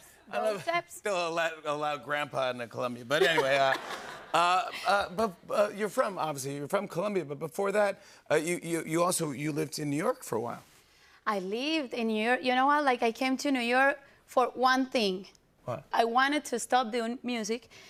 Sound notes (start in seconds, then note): 3.1 laughter